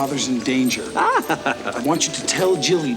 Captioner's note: laughs